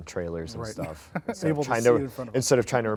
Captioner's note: laughs